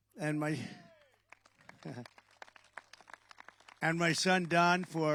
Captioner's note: applause